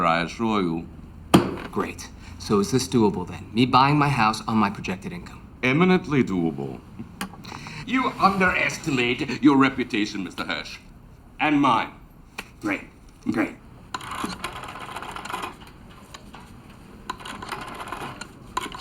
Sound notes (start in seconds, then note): 13.9 phone clacking